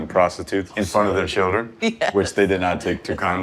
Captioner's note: laughing